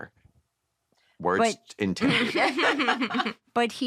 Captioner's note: chuckling